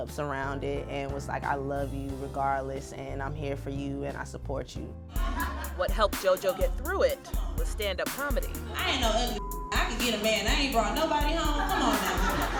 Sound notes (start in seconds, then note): 9.3 beep